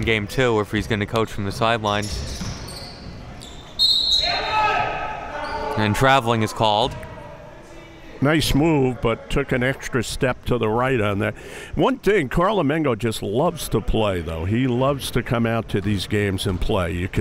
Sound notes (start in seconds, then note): 3.4 whistle blows; 4.3 yelling